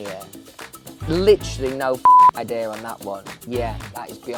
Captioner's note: beep